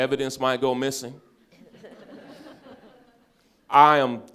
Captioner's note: all laughing